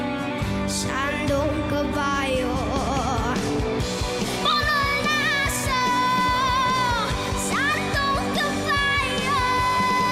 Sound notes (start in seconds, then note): none